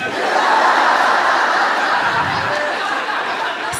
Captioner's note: laughter